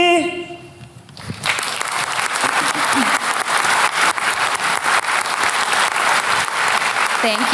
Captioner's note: applause